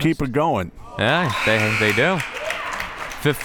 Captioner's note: buzzer ringing